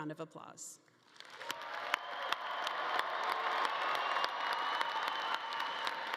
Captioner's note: audience cheering and clapping